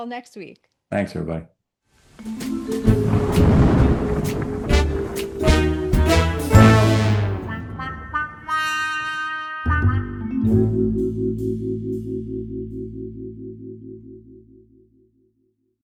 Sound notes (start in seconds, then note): 2.1 gentle music; 2.8 thunder roaring; 4.5 gentle music continues